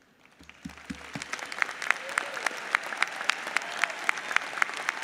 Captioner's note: audience applauds